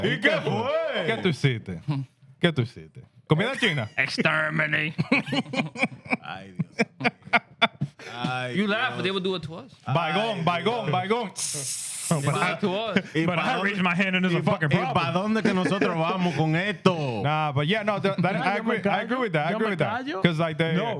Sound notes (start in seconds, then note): 4.9 laughing; 11.3 sizzling; 16.7 speaking In Foreign Language